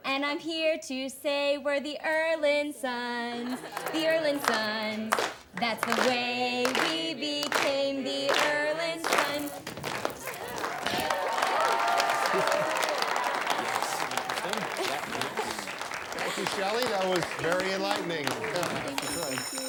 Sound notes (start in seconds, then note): 9.0 feet shuffling; 11.4 class cheers; 18.8 bell rings